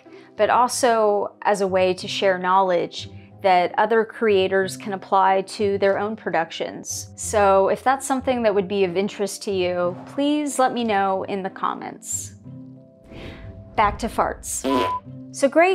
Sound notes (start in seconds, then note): 13.0 deep breath in; 14.6 fart and beep